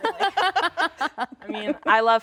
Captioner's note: laughs